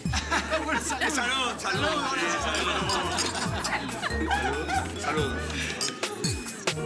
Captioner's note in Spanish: Risas